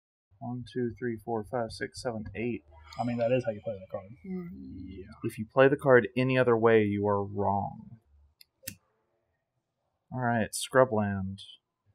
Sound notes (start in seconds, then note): 2.9 assorted grumbling